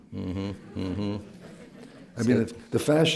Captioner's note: laughter